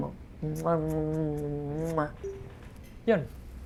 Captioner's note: kisses